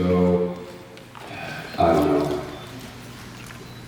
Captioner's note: sighs